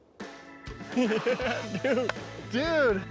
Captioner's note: both chuckling